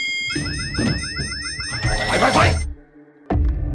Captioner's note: beeping intensifies